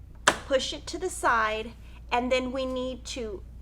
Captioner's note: click